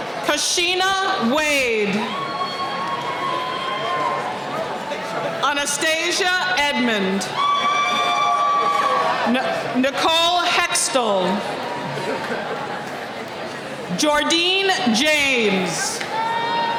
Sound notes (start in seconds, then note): 7.2 cheering